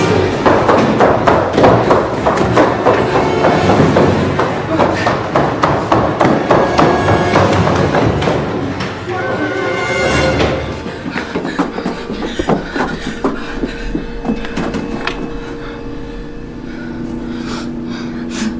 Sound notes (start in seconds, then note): 0.1 tense music; 2.5 footsteps thudding; 6.6 tense music; 10.6 both panting; 15.3 light hearted music